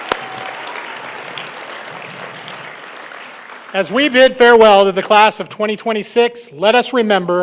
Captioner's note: cheering and applause